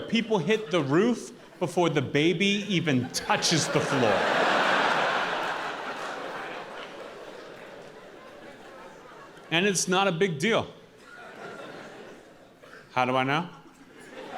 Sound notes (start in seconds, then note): 2.8 audience laughing and applauding